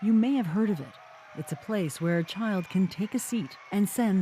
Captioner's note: cheers and Applause